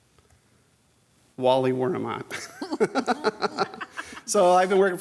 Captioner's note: laughter